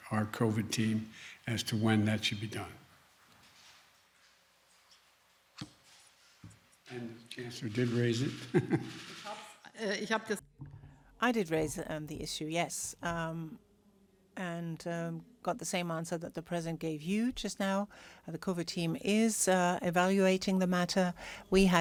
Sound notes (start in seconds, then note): 8.4 laughs